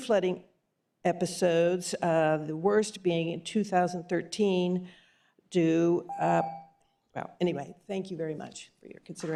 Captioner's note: beep